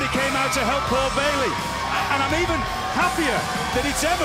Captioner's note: cheers & applause